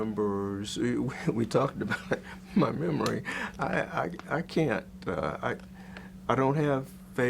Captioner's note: chuckles